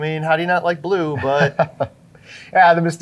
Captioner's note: laughing